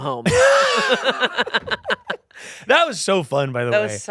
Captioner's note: everyone laughing